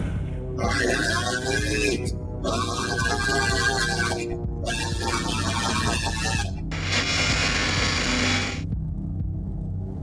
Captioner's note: screaming